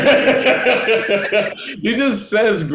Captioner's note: laughing